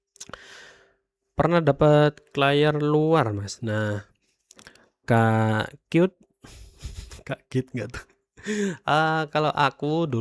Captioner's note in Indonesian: tertawa